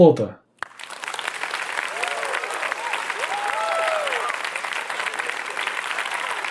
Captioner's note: applause, cheers